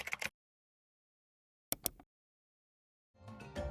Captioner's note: keyboard clacking; mouse click; upbeat music